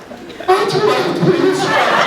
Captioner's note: laughs; croaks